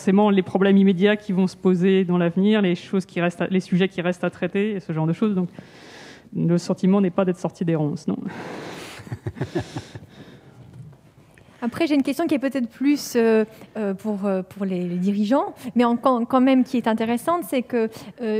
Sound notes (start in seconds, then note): 9.0 laughs